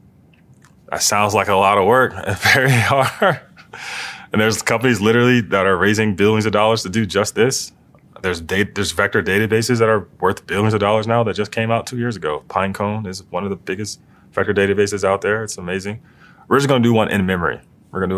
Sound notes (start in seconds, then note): 2.2 laugh